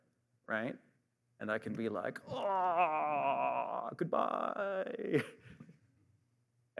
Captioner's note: groans